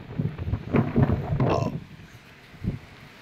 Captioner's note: belch